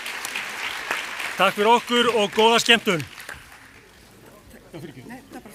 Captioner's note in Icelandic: fagnaðarlæti